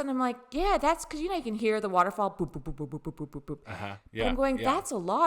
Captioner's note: dripping sounds